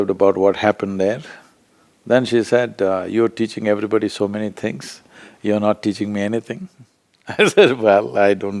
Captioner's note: laughs